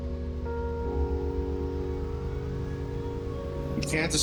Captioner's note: engine rumbling